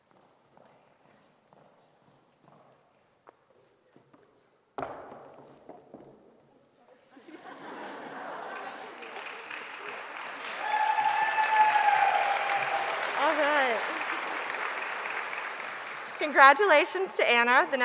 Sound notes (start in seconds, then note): 7.2 audience chuckling; 10.5 audience applauding; 10.5 audience cheering